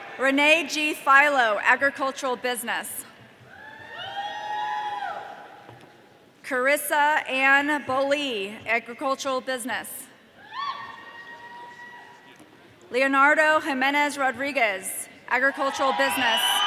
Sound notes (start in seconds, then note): 0.0 audience cheering; 3.7 audience cheering; 10.6 audience cheering; 15.6 audience cheering